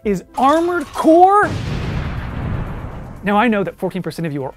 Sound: explosion

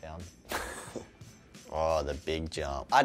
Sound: laughs

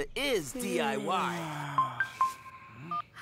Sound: yawns

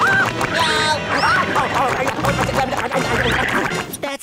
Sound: screaming

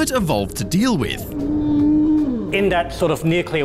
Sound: groaning

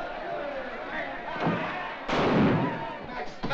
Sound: gunshot

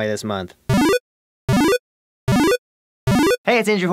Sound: bleep, bloop, blops

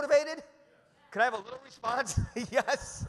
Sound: chuckles

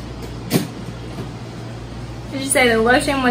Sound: thuds

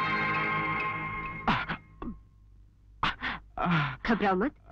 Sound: groans

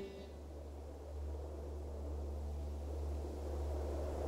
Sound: wind blowing

